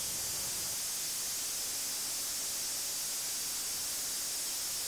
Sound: saw cutting

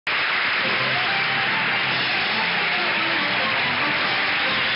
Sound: audience applauds

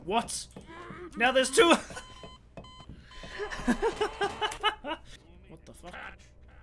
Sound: laughing

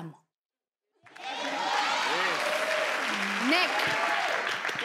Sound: speaks in foreign language; crowd applauds

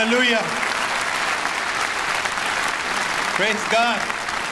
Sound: audience applause

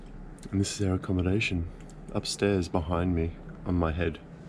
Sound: none

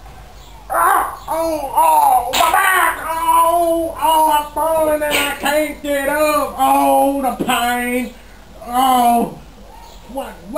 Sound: groaning

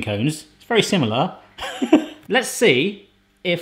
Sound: laughs

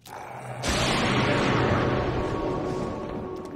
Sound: growling

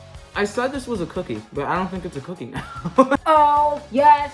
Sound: laughing

